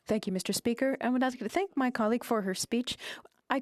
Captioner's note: speaking French